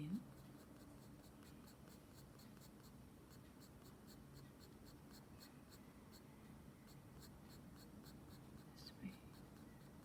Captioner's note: shading sounds